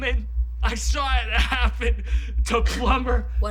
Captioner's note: sobbing